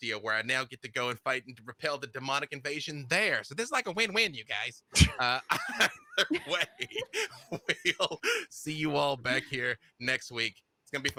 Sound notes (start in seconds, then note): 5.0 laughing